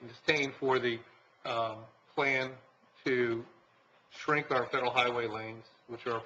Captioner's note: none